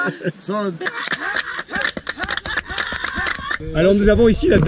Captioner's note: chanting